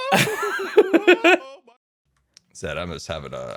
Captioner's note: laughs